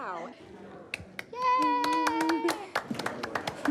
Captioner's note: giggles